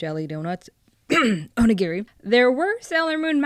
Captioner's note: clears throat